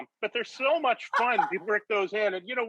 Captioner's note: Rachael laughing